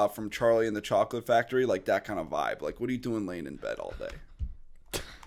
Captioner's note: chuckle